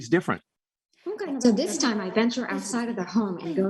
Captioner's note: Marie speaking foreign language